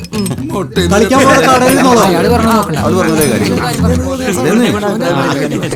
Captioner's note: indistinct chatters